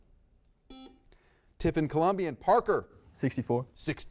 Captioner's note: buzzer beeps